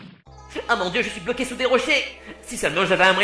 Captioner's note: "Trunks" voice